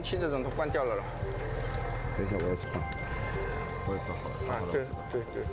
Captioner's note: speaking Chinese